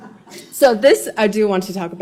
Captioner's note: laughs